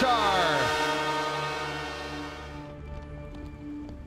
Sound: horn blaring

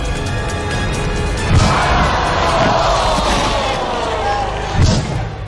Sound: spectators groan

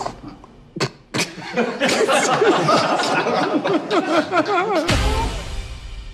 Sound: laughter; snickering

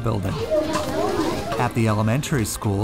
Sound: students talking in hallway

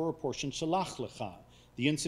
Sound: speaking foreign language

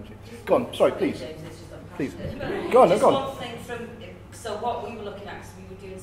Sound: laughter

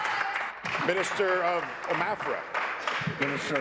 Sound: applause

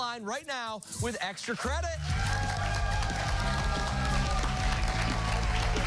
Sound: cheers and applause

